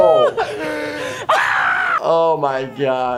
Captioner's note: men laughing